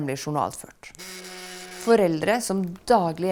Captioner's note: telephone rings